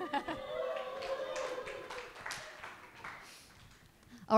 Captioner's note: audience cheering